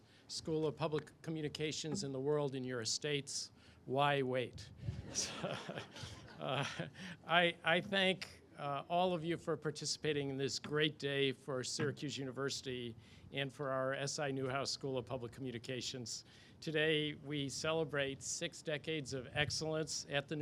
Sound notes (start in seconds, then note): 5.0 all laugh